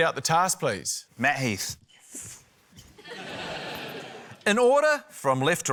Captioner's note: laughter